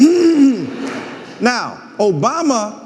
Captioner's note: audience laughing